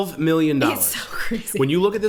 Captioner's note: laughing